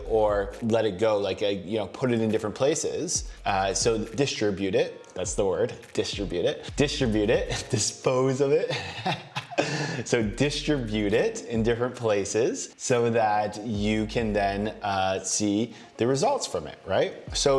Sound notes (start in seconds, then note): 8.6 laughing